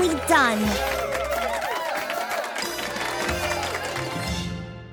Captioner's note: others cheering